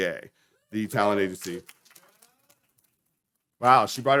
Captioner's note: audience clapping